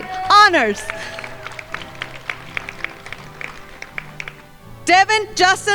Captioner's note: crowd applauding